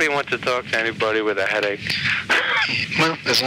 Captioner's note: laughs